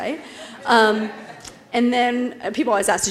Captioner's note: laugh